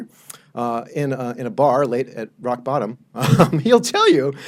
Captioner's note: laughs